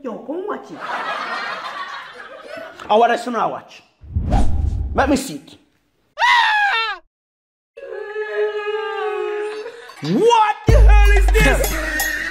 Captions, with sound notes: Let us watch it What are you guys watching? Let me see it *Loud scream* *sobbing* What the Hell is this